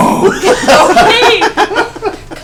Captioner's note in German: Gelächter